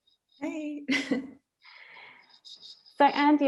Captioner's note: laughs